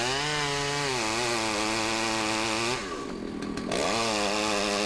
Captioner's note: sawing